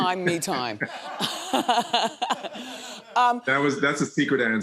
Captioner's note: everyone laughing